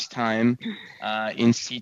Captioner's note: speaking French